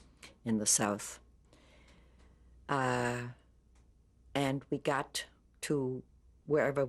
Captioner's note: pauses for 3 seconds